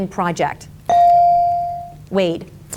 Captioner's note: bell dings